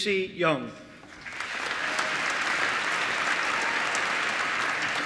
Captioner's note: applause